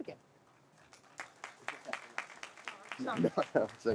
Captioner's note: audience applauds